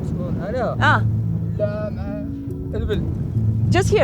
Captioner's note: herder speaks foreign language